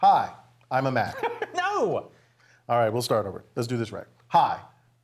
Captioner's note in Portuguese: risos